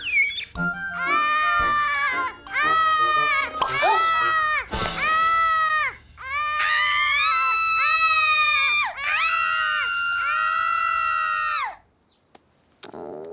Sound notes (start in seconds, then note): 0.9 cries; 2.5 wails; 6.2 screams